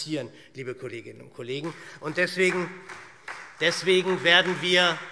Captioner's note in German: Beifall SPD